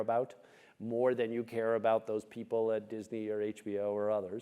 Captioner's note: none